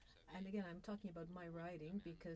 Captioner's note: speaking French